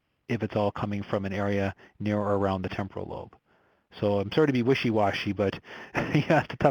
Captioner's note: laughs